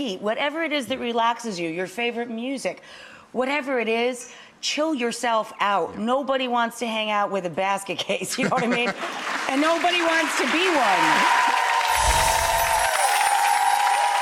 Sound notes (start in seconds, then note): 8.2 laughing; 11.9 applause